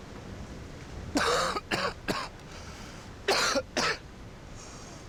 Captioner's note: coughing